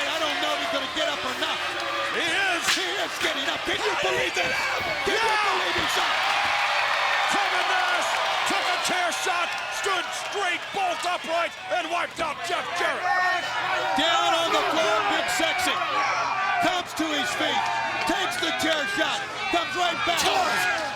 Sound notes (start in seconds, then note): 4.2 overlapping chatter; 5.5 crowd cheering